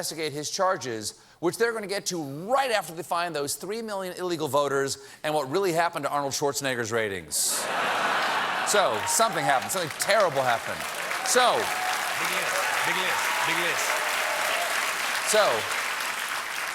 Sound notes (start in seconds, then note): 7.5 laughter; 8.8 applause